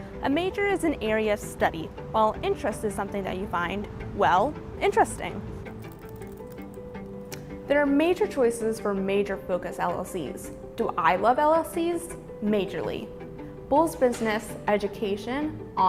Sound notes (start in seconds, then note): 5.8 keyboard clicking; 5.8 upbeat music